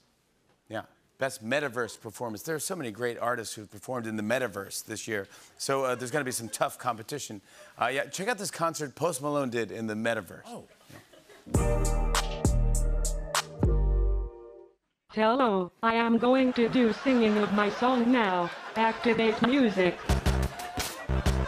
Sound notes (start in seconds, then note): 14.7 Robotic voice